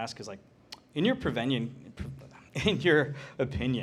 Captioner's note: laughs